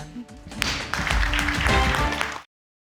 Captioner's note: applause